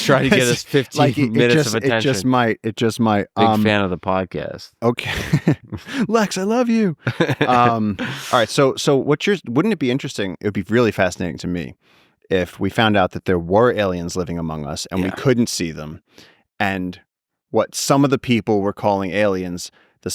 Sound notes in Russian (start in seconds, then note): 7.3 Лекс смеётся